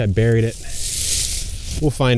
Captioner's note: leaves crunching